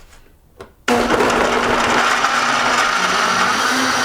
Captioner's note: whirring